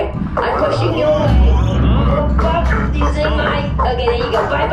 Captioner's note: banging, thumping, crew members exclaiming